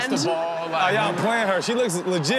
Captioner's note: crowd laughs